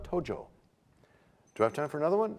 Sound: bell chimes, time expires

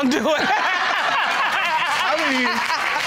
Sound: all laughing

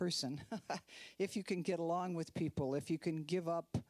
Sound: chuckling

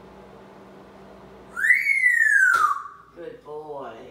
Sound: whistling

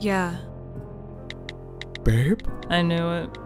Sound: typing on cellphone

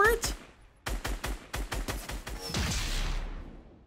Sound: guns banging

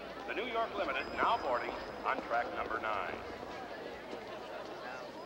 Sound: chatter

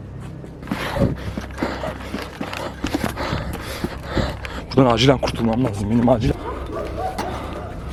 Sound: breathing sounds

